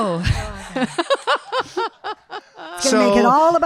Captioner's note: laughing; audience laughing